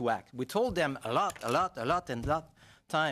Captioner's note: speaking French